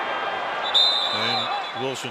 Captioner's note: whistle